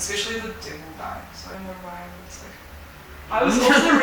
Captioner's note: laughing